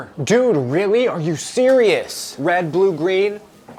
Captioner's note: none